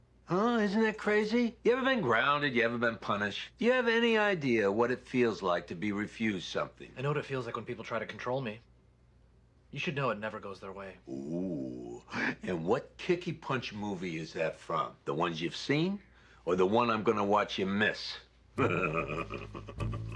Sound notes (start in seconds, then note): 18.6 laughs